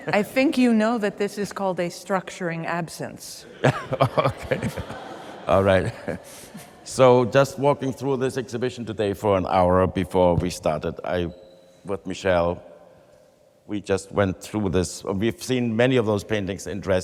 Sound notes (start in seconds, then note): 3.5 laughs